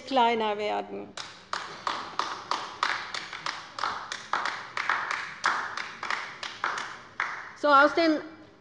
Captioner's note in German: Beifall bei der LINKEN